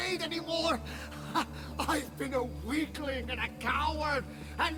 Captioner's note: laugh